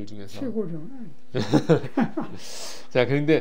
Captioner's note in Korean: 웃음